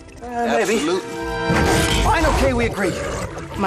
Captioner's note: beast snarls